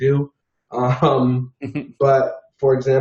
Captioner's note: both men chuckle